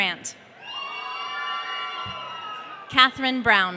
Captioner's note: audience cheering